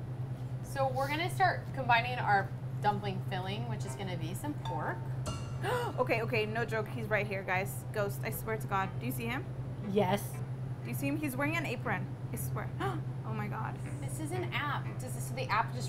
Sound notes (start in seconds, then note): 5.1 gasp